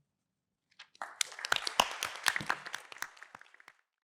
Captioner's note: applause